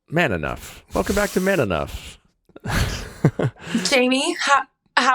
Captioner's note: chuckles